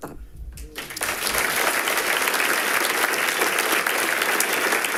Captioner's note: people clapping